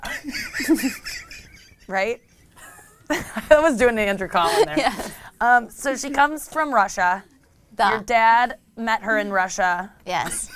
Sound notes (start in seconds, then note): 0.0 laughs; 7.2 foreign language